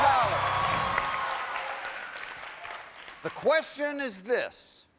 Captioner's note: cheers and applause